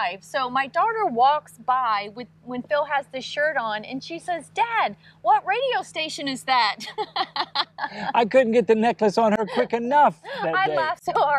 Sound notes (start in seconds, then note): 6.7 laughing